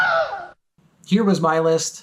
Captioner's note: Wilhelm scream